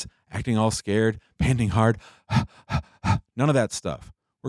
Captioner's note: panting